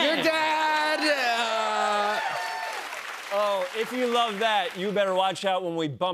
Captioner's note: cheers and applause